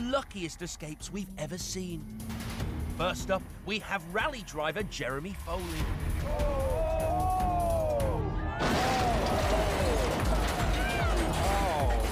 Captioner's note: thomas the tank engine crashing sounds